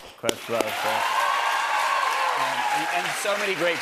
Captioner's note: cheers and applause